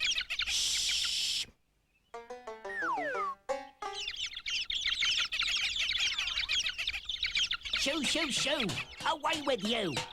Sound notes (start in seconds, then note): 3.6 chirping